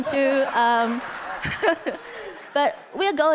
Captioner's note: audience laughing